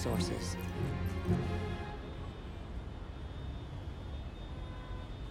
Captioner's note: horns Honking